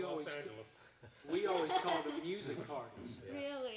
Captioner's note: everyone chuckling